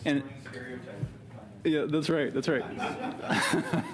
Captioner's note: laughter